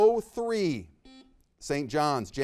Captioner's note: buzzer beeps